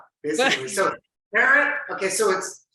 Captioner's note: chuckles lightly